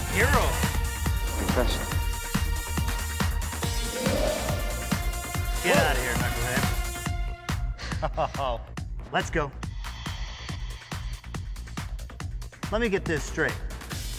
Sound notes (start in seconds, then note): 7.8 Coach Boomer laughs